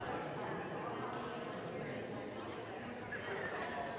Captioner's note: indistinct crowd chatter